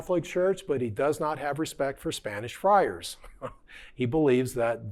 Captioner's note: chuckling